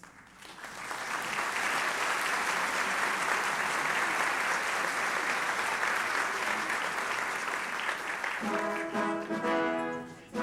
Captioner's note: applause